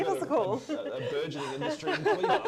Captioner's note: laughter